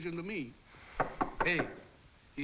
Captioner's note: door knocking